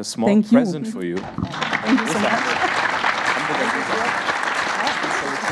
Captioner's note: audience applauding